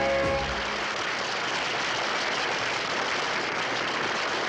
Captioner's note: audience applauds